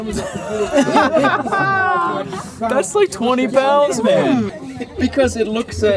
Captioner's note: laughing